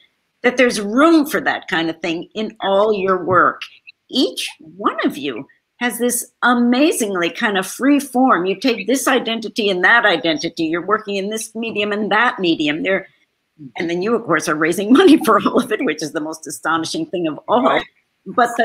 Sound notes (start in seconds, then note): 14.9 laughs